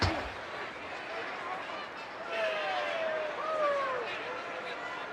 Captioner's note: crowd clamors